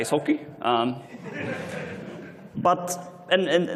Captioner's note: laughter